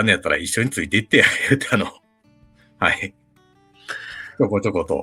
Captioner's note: laughs